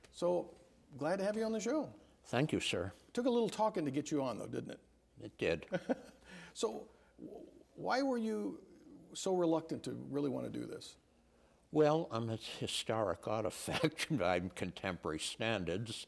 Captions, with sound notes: So, glad to have you on the show. >> Thank you sir. >> Took a little talking to get you on though, didn't it? >> It did. >> (laughing) So, why were you so reluctant to really want to do this? >> Well, I'm a historic artifact by contemporary standards.